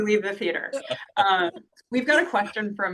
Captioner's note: laughter